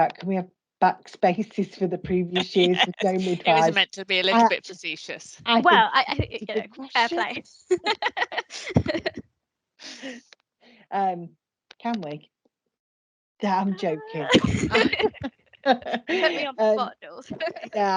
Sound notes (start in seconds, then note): 2.3 laughs; 7.7 women laugh; 13.7 women laugh